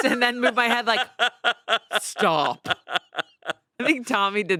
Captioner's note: laughs